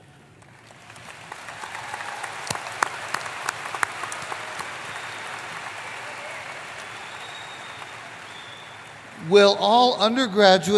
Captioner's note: applause